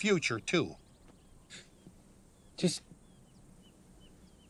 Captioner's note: chuckles